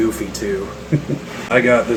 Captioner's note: chuckles